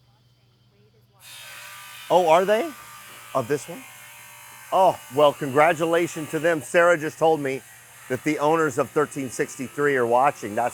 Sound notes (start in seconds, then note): 1.2 tools whirring